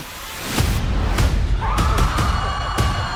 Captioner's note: people screaming; upbeat music